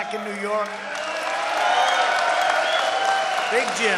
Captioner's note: applause